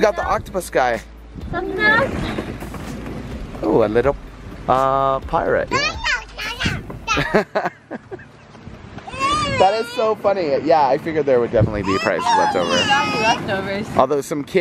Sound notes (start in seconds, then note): 5.8 babbles; 7.0 laugh